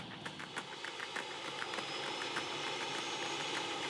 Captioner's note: propeller whirring